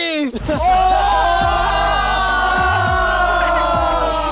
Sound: all screaming

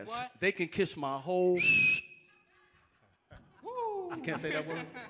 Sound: whistling

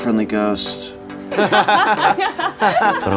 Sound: 𝘭𝘢𝘶𝘨𝘩𝘵𝘦𝘳

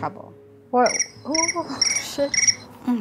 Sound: phone ringing

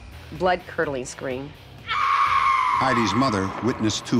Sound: screaming

